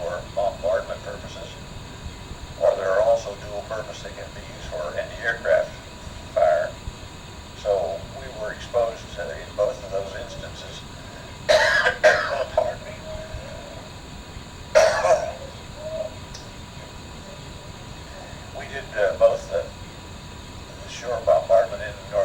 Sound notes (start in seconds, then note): 11.4 coughs; 14.7 clears throat